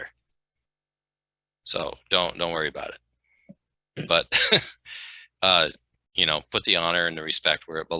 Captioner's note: laugh